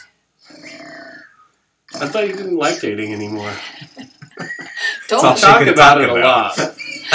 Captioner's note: snoring sounds